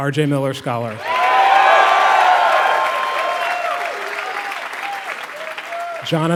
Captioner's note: applause